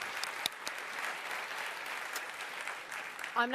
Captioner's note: applause